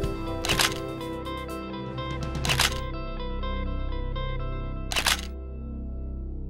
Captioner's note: sound of camer taking photos, soft music